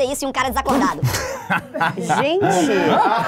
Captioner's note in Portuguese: risadas